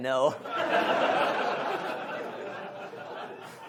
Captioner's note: audience laughs